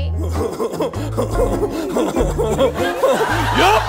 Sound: laughter

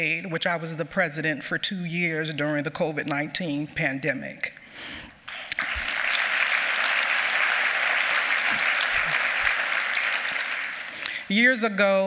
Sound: applause

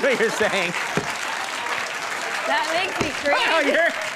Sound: audience clapping

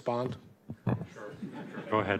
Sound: laughter

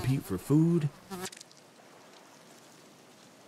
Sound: buzzing

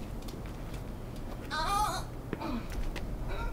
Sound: squealing

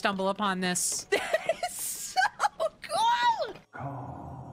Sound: excitedly

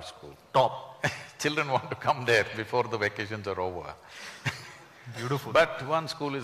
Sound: laughs

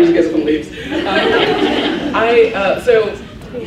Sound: laughs

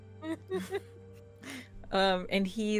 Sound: laughing

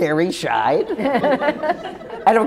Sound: laughter

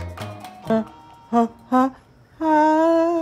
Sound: breathy humming

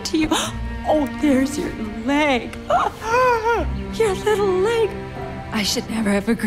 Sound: gasps

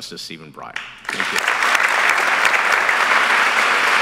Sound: applause

